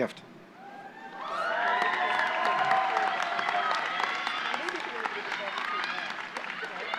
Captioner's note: applause